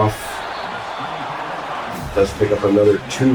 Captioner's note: crowd Noises